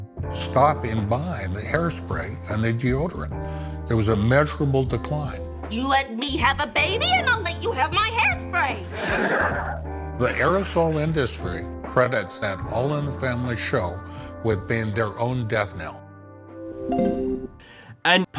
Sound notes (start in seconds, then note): 8.9 audience laughing